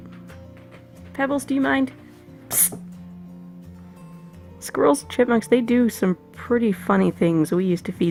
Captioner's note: psst noises at cat